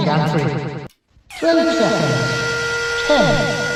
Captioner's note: hydraulics